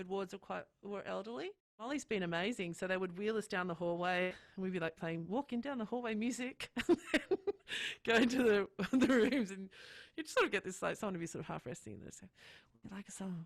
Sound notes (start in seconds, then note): 6.8 laughing